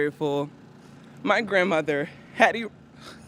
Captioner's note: sighs